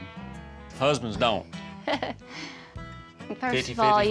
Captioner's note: chuckles